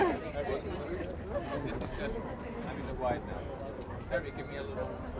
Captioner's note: indistinct chatter